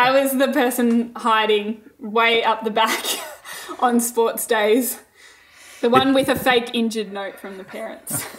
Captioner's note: both laughing